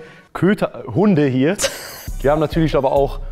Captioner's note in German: Lachen